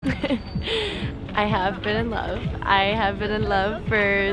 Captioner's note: laughs